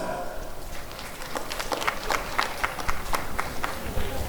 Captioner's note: applause and cheering